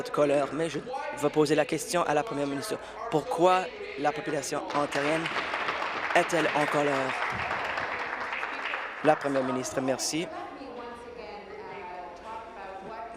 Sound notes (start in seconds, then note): 8.3 applause